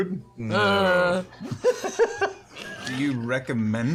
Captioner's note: affirmative grunt; dissenting grunt